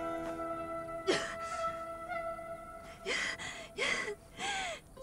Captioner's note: Clive crying